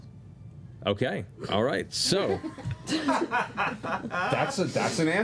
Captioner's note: laughter